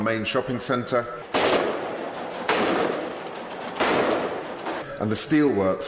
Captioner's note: sounds of sporadic gunfire